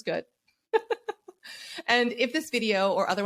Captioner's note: laughs